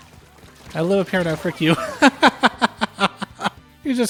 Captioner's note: laughter